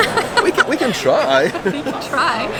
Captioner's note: chuckles; laughs